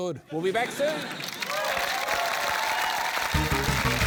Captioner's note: cheering, applause